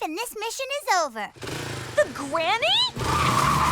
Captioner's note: tires screech